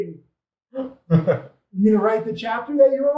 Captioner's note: laughs out loud